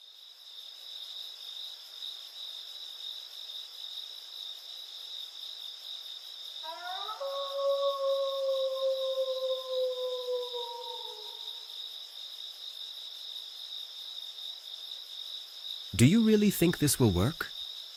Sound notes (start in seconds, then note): 0.8 crickets chirping; 6.6 wolf howling; 11.7 crickets chirping continues